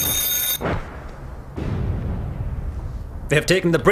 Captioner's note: phone ringing